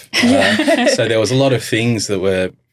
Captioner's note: laughing